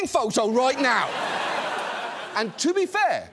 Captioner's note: audience laughs